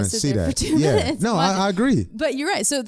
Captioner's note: both laughing